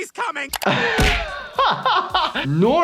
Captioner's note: laughs